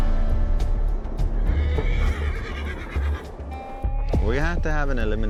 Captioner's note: horses whinny